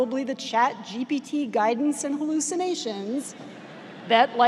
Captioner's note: audience laughs